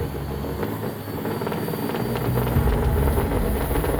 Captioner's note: tense music; truck engine revving